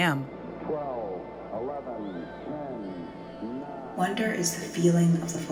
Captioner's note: soundbite of archived recording